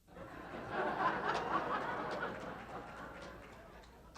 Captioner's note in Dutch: publiek lacht